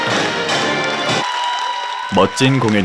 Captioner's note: people clapping